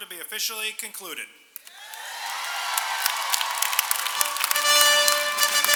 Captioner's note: applause